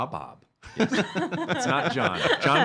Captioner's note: laughing